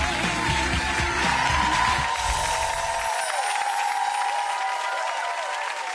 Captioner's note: upbeat music; audience cheering